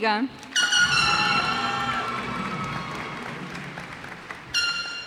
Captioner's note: cheers and applause